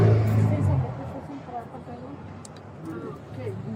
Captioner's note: speaking in foreign language